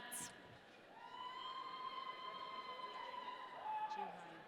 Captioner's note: audience cheering